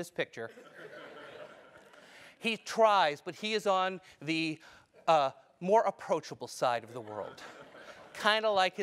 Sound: laugh

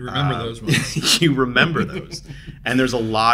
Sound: both laughing

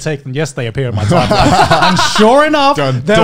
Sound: laughing

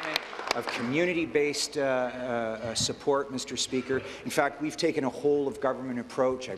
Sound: applause

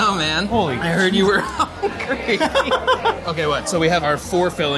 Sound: laughs

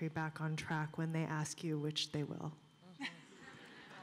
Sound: laughter

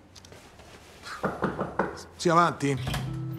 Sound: knocking at the door

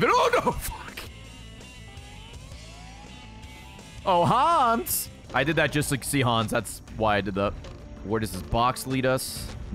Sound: laughs

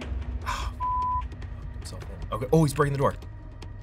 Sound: beep

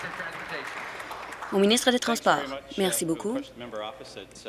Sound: applause

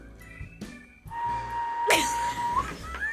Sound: whistles; React laughs; group laughs

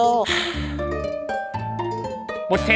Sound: sighing deeply from the abdomen

